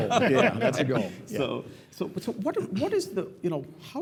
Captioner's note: laugh